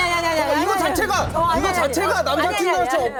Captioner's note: booing hard